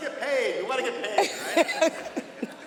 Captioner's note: laughter